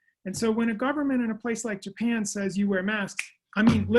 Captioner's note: snaps